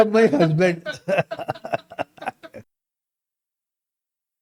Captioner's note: laughs